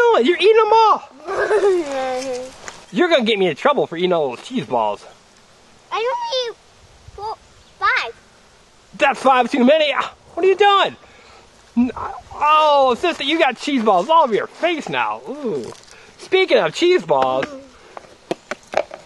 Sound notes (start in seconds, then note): 2.9 laughing; 9.6 voiceover